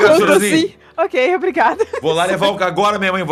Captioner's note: laughs